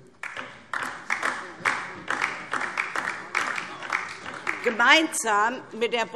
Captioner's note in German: Beifall DIE LINKE